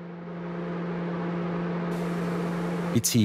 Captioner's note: machines hum